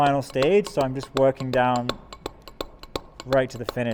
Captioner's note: metal hammering